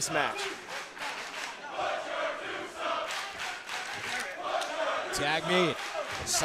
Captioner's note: crowd cheering